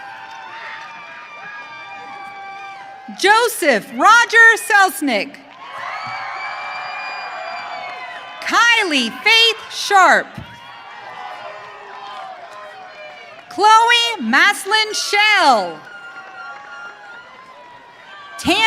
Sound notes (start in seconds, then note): 0.0 audience cheering; 16.4 audience cheering